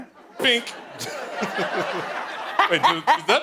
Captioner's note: laughing